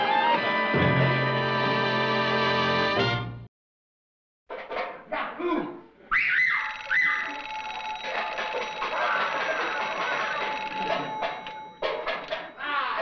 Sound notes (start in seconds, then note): 4.5 banging; 6.1 whistling; 6.6 phone ringing